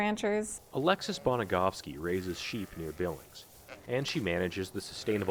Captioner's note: voice-over